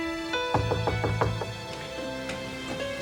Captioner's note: knocking